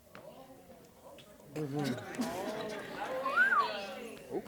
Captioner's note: chatter, whistles